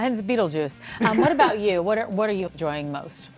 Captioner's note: interviewees laughing